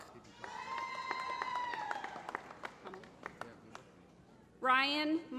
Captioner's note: applause